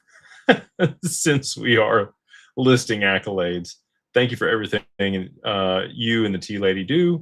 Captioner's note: laughter